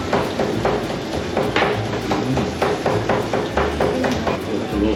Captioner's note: sound of chopping giblets